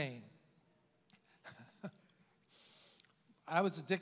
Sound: chuckles

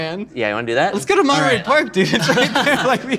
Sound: laughs

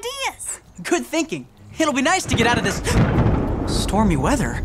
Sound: thunder rumbling; gasps

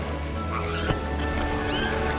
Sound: pig squeals excitedly

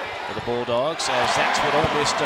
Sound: crowd cheering

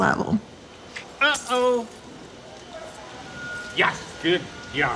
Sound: keys jangling

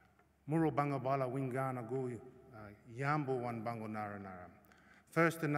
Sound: non-english speech

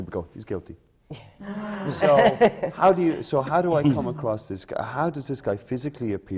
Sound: laughter

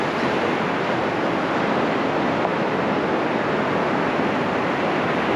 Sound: laughing Gulls calling in the distance

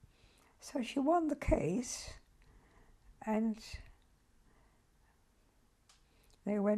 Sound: pauses for 3 seconds

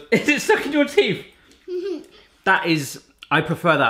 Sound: laughs; giggles

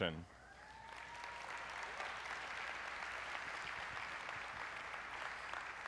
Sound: applause

